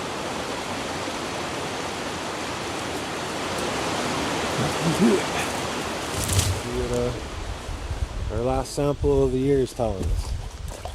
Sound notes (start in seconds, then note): none